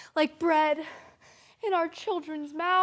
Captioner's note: heavy breathing